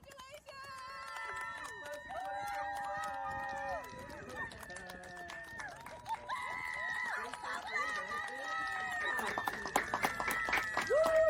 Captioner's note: clapping and cheering